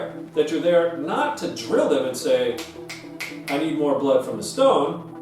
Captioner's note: snaps fingers